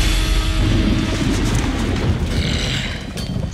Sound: thunder

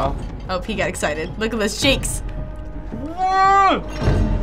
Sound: whimpering

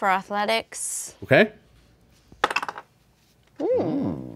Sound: dice clatter

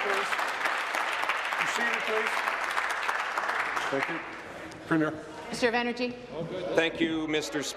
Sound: applause

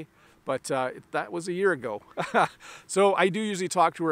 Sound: laughs

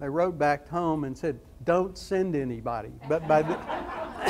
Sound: audience laughs

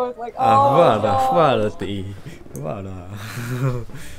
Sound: Serbian

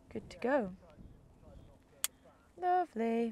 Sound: sing-song

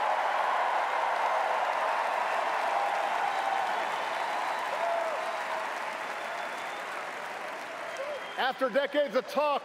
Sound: applause

